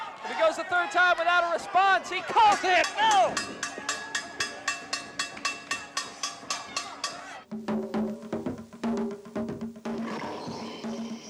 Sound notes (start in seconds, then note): 2.5 bell ringing; 7.8 drums beating